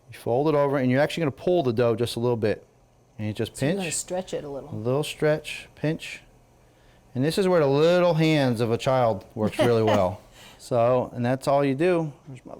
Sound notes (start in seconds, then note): 9.4 laughs